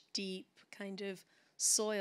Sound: none

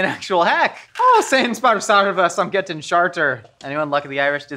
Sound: speaking in foreign language

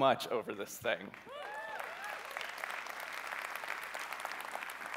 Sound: cheering

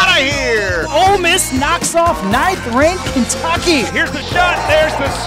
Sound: voiceover

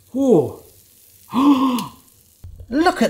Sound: gasps

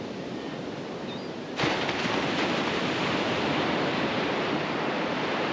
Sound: the sounds of multiple Laughing Gulls in the distance

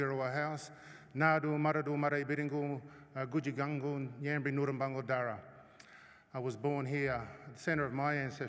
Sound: non-english speech

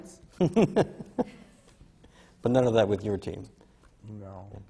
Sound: laughs

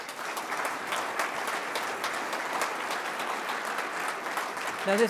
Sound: audience applauding

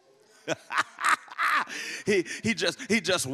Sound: laughs

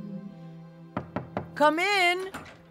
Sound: knock on door

